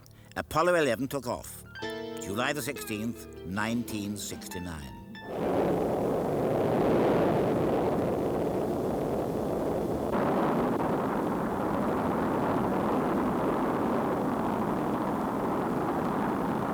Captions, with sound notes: Apollo 11 took off on July the 16th, 1969. [Rocket blasting]